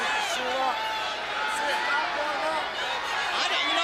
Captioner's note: crowd chatter